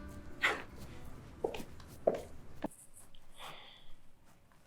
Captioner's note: footsteps tapping